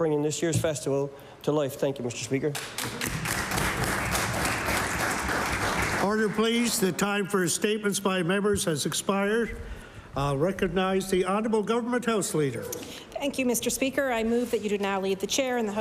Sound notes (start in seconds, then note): 7.4 applause